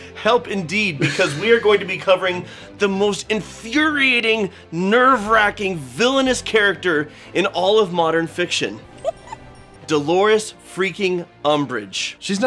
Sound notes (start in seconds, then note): 8.9 giggle